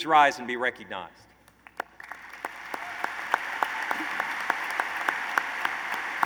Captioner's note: applause